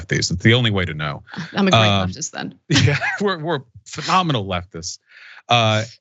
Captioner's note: laugh